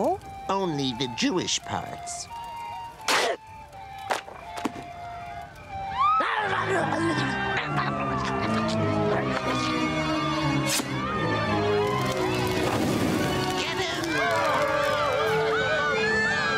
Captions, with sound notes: Only the jewish parts. [loud tear] [zombies yelling, people screaming]